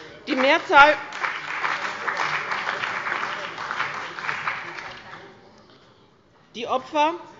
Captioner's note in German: Beifall bei dem BÜNDNIS 90/DIE GRÜNEN und der CDU